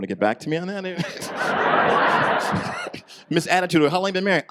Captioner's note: audience laughs